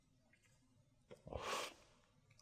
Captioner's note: inhales